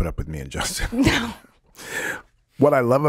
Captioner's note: laughs